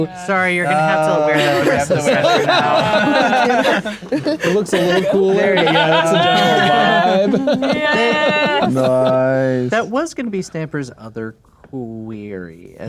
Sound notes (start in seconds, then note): 3.0 players laughing; 6.0 players laughing and talking over each other